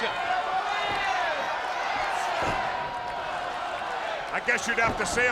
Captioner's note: spectators cheering